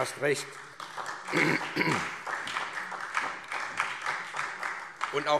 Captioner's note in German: Beifall SPD